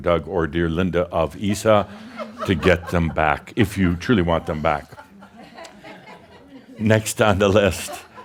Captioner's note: more chuckles